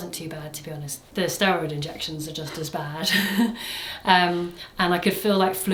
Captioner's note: laughs